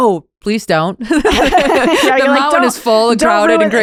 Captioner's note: both laugh